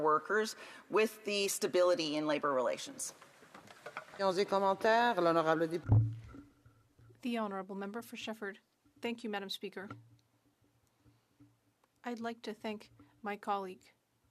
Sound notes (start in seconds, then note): 11.6 speaking French